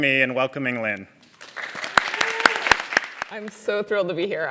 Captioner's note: applause